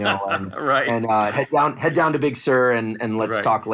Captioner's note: laugh